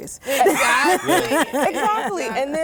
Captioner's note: laughter